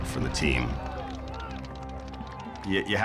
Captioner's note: people cheering